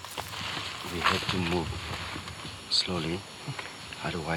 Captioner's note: whispers